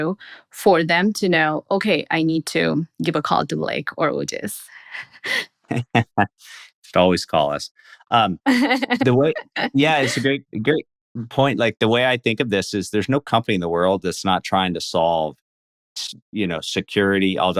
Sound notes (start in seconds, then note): 5.7 laughing